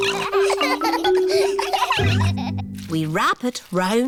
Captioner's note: snorts; all laughing